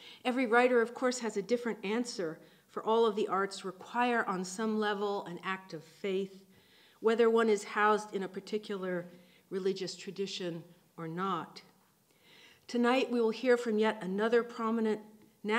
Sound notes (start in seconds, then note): none